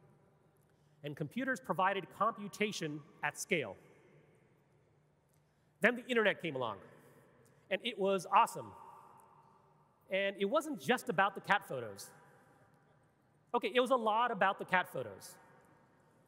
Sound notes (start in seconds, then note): none